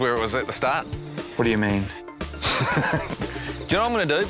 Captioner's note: chuckles